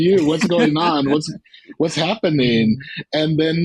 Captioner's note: laughter